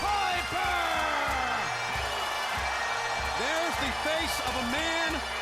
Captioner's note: crowd cheering; bagpipe music